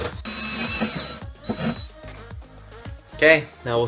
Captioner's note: machine whirring; mellow music